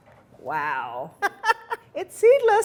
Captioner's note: laughs